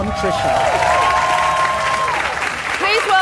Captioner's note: audience applauds